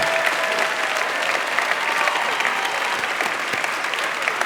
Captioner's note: audience applauding